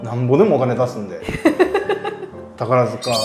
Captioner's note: laughing